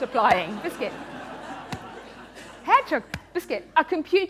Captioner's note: laughter